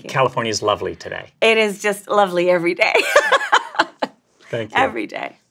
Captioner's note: laughs